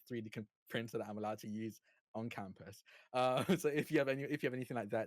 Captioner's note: chuckles